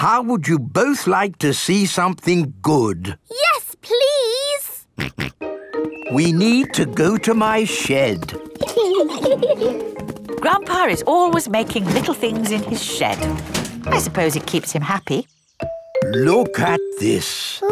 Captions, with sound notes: How would you both like to see something good? Yes Please! (SNORTS) We need to go to my shed! (GIGGLING) Grandpa is always making little things in his shed. I suppose it keeps him happy. Look at this!